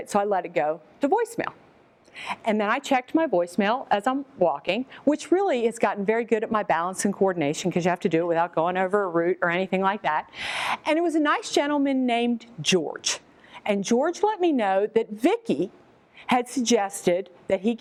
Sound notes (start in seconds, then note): none